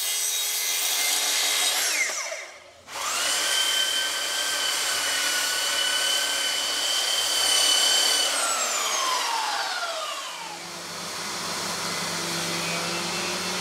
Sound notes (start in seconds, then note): 3.3 loud whirring